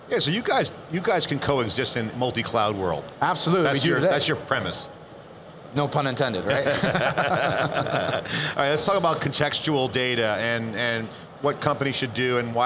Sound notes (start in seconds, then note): 6.5 laughing